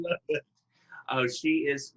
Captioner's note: laughing